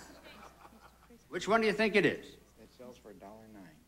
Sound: audience laughing

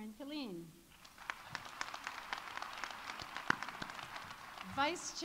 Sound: audience applauding

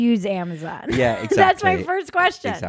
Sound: laughs loudly

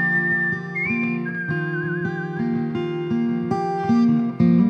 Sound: whistles

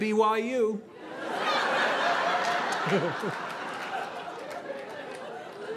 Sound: audience laughing

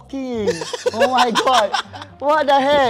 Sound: laughs in amusemet

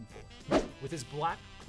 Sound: swoosh

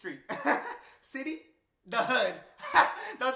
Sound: laughs; laughs

